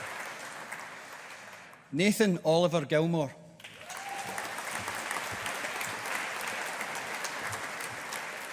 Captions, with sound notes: Nathan Oliver Gilmour. (AUDIENCE APPLAUDING)